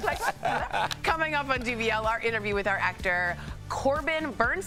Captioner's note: laughter